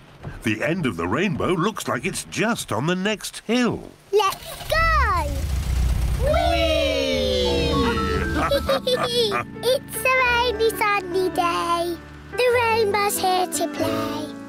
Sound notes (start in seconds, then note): 7.5 all laugh